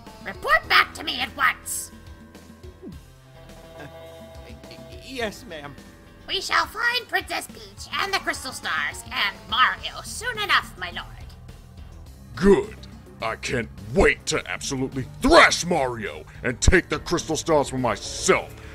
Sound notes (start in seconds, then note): 2.7 gulp